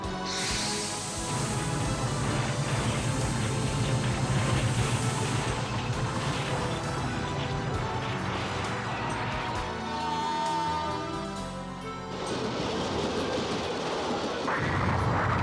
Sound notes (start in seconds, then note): 10.4 horn honks